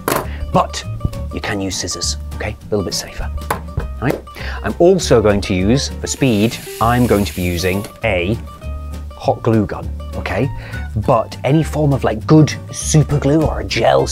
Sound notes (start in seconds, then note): none